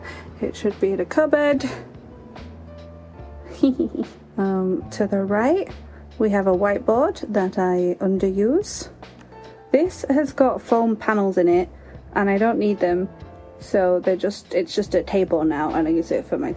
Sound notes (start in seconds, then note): 3.4 giggle